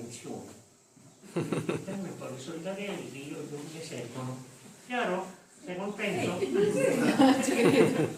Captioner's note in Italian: Risate